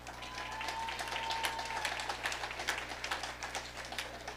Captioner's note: audience applauding